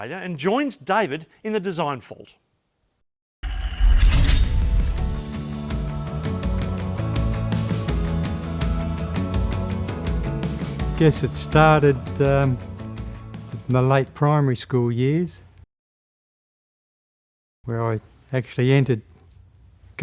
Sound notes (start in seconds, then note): 3.8 metal clinking; 5.9 upbeat music